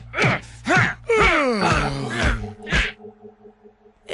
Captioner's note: yawn